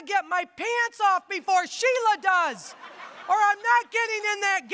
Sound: audience laughing

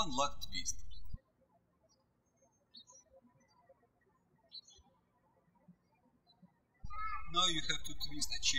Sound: birds chirping

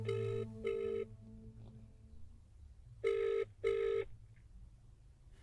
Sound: phone ringing

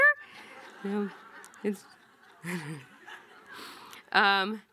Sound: audience laughing

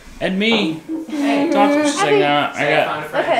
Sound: moaning

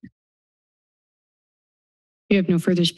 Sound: silence

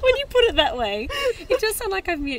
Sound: giggling

